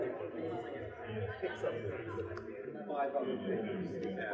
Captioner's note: all talking quitely